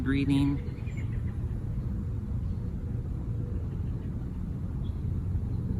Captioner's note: peaceful animal calls